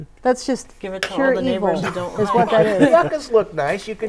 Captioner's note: laughing